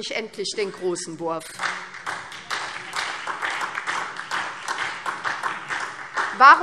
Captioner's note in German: Beifall SPD